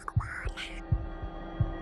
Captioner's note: Gremlins whispering